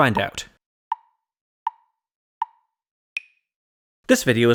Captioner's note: tick, tick, tick, tick, tock